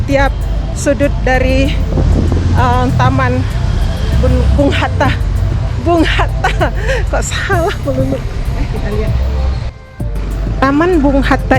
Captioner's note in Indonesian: ketawa